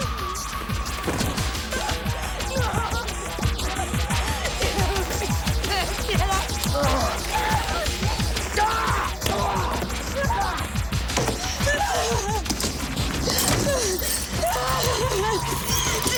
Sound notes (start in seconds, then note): 7.2 grunting; 7.2 screaming; 13.6 Jodie sobbing